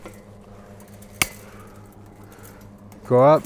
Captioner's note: chain link snapping